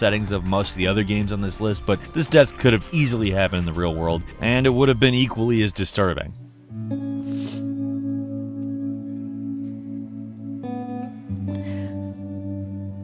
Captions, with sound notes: of most of the other games on this list, but this death could have easily happened in the real world, and it would've been equally as disturbing. (Ellie sobbing) (gentle somber music)